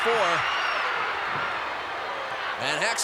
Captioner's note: applause